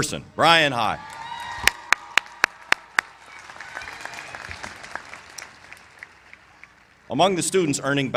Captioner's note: applause